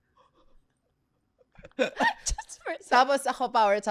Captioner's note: laughs